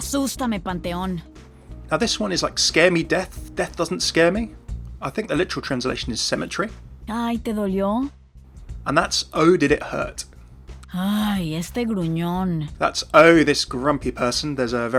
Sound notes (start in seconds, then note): 0.1 Sombra speaking in foreign language; 7.2 Sombra speaking in foreign language; 11.1 Sombra speaking in foreign language